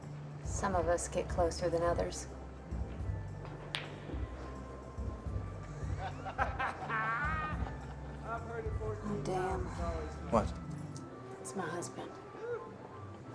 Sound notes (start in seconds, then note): 3.4 pool balls clacking; 5.8 men laughing